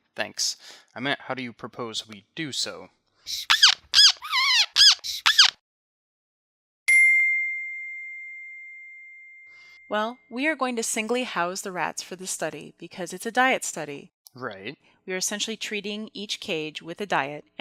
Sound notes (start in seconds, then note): 3.3 squeaking; 6.8 ding